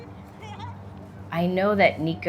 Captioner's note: child laughing